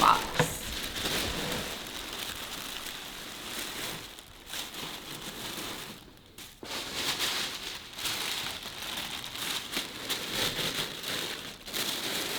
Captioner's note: tissue crinkling